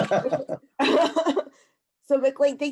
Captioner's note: laughs